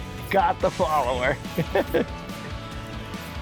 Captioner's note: laughs; upbeat music continues